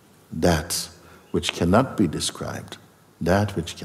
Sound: none

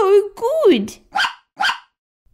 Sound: bark! Bark!

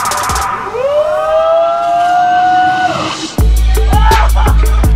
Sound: cheering and laughing

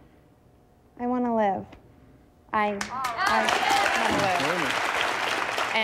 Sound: audience applauding

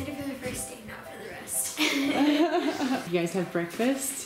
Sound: laughs

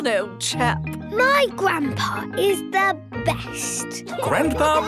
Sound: laughing

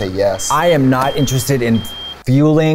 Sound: beeps

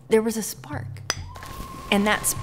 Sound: rock clinks; fire sizzling

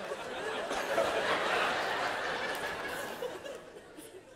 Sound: laughter

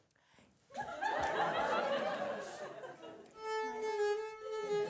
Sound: audience laughing; elegant violin music

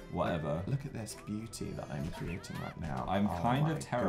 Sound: mumbles

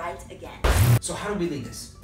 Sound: loud bang

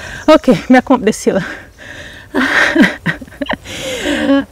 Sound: signing & panting

